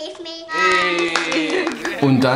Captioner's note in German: Klatschen